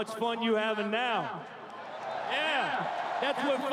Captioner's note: cheering and Applause